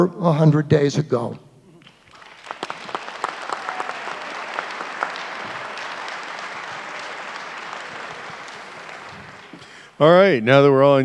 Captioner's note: applause